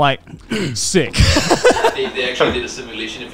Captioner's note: laughs